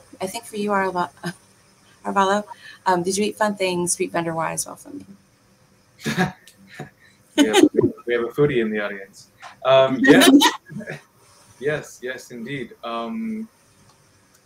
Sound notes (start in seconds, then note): 6.0 laughing; 9.6 laughing